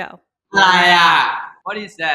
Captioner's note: in Thai